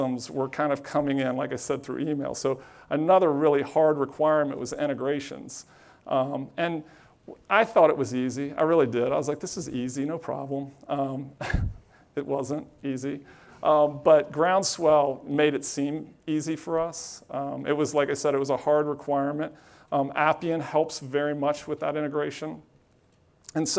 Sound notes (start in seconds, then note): 11.6 laughs